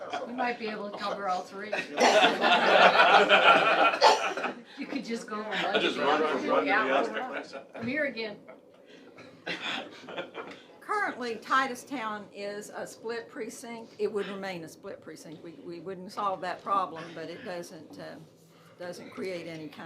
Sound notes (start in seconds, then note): 5.5 laughter